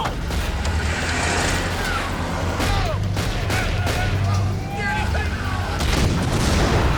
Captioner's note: engine revving; gunshots popping; explosion booms